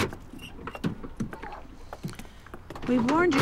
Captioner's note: car door opens